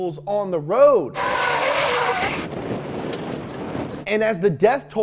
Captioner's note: tire screeching